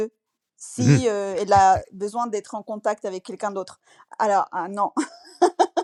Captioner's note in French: rires